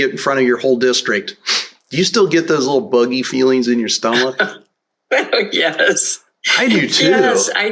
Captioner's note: laughter